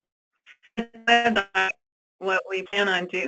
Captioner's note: static